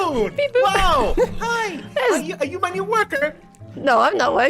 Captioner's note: laughing